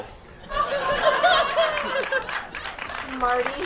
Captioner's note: audience laughter